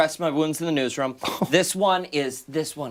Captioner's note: laughter